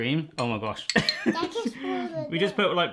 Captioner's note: laughs